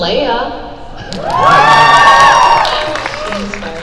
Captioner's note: crowd cheer